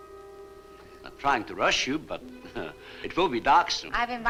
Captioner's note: chuckles